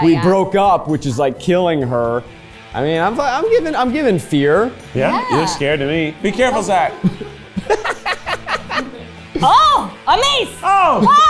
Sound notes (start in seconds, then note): 7.9 laughs